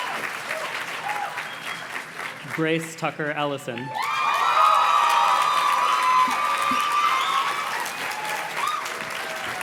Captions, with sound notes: Grace Tucker Ellison. (audience cheers and claps)